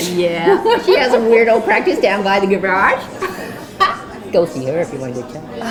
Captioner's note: laughs